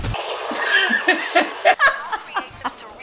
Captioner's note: laughs